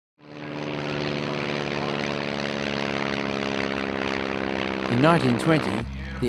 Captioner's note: aircraft sounds